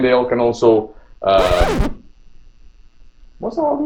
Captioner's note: record scratch